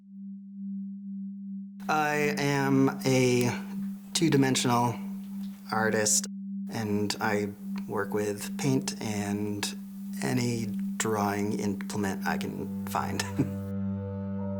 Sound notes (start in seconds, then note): 1.2 melancholic music; 12.8 laughs